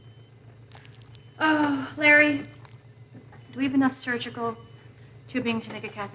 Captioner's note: sighs